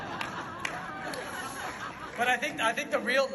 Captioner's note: laughs